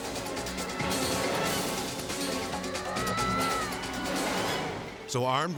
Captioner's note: intense music; crying